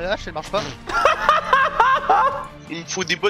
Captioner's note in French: Rires